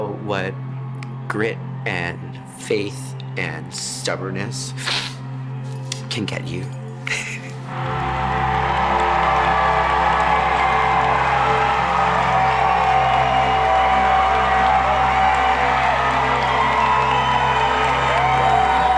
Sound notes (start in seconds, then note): 4.8 sniffling; 7.1 crowd cheering